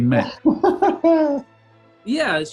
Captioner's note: laughing